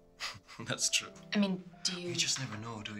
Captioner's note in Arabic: يضحك